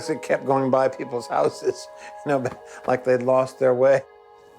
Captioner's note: laughs